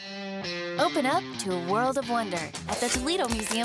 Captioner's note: voiceover